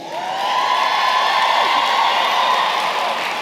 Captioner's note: cheering & applause